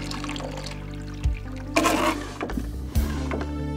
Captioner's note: gas trickling; Quinn spitting; intense music